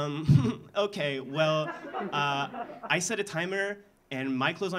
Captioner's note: laughing; audience laughing